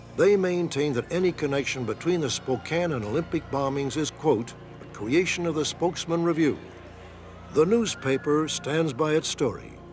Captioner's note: none